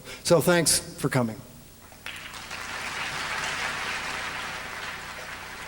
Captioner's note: applause